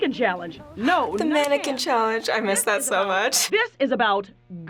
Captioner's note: gasps